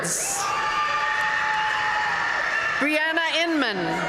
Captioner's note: audience cheering and applauding